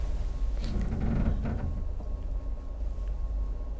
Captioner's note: ship creaks